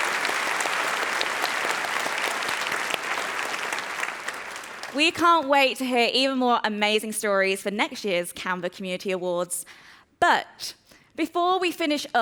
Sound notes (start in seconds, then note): 3.5 applause